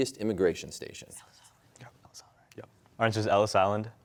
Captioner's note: all whispering